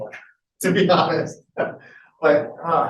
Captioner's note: laughs